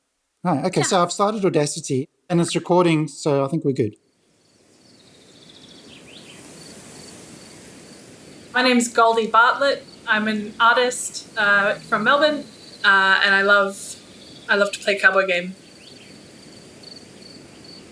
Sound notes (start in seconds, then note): 4.4 birds chirping